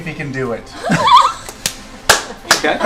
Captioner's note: laughter